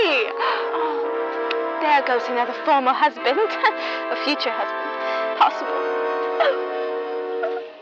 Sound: sobs pompously

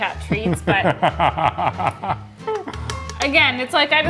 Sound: laughs

